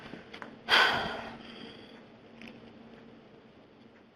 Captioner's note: heavy sigh